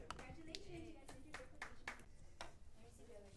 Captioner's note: clapping